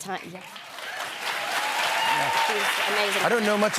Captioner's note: cheers and applause